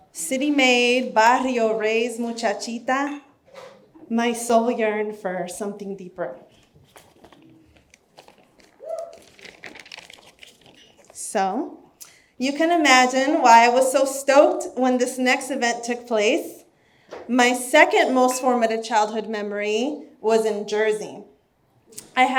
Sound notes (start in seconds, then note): none